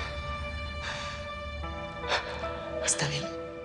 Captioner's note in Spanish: El exhala